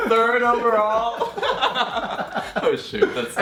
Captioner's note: laughing